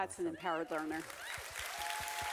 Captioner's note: clapping